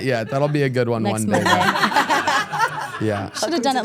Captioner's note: everyone laughs